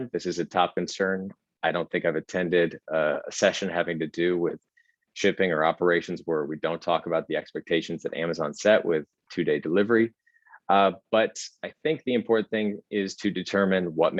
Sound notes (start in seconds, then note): none